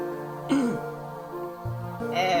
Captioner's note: clears Throat